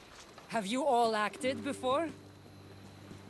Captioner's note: none